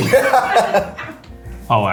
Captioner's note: everyone laughing